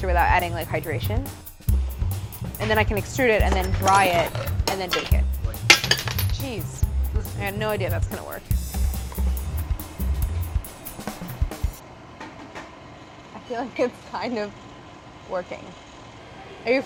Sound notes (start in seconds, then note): 5.5 metal clattering